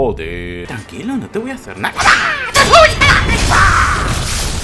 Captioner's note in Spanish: sonidos de asesinato intensos